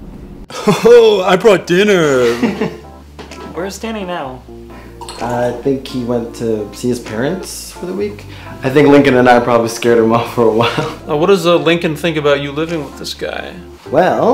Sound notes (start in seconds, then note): 2.2 laughter